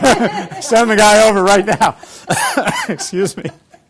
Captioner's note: cough